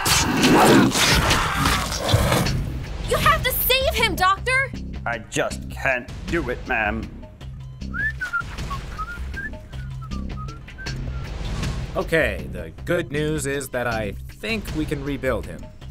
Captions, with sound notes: >> You have to save him doctor! >> I just can't do it ma'am. [Whistling] >> Okay, the good news is that I think we can rebuild him.